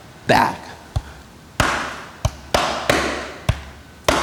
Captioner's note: taps instrument